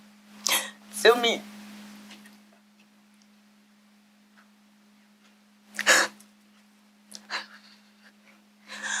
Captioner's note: catches breath; sigh